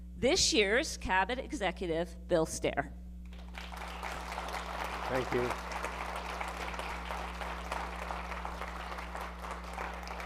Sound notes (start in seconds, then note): 3.3 audience applauding